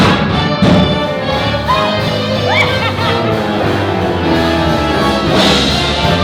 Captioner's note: women screaming and laughing